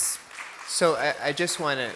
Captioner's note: applause